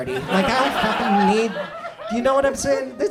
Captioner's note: audience laughs